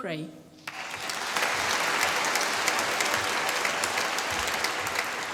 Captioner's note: applause